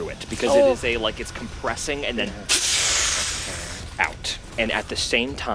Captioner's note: whooshes